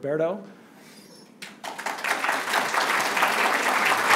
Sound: applause

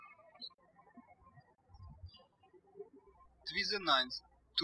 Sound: birds chirping

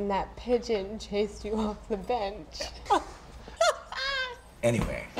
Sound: laughing

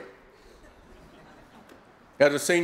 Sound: laughter

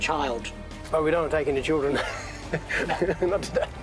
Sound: laughs

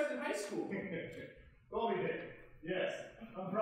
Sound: chuckling

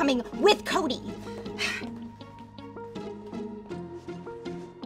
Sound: Allie sighs; dramatic music

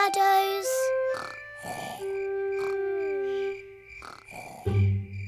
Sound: george snoring

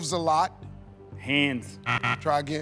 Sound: buzzer

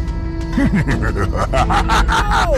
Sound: laughing

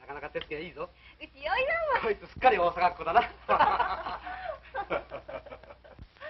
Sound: osaka dialect

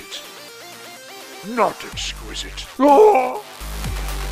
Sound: screaming

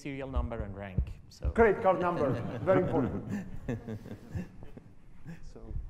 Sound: audience laughter

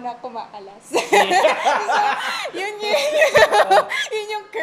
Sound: laughs

